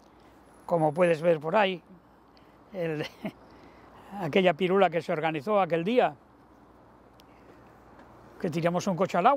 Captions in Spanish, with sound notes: como puedes ver por ahí. Je [Ríe], aquella pirula que se organizó aquel día, que tiramos un coche al agua, de